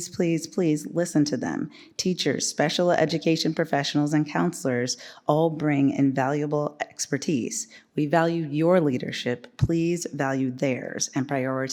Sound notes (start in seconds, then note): none